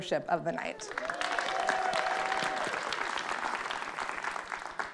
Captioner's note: audience clapping